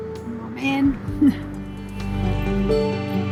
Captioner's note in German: lacht